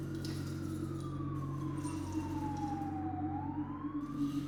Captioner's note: sirens blaring